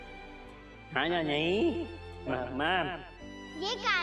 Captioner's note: Golu talking gibberish